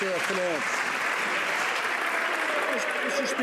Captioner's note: some Applause